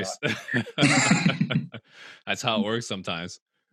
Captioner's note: laughs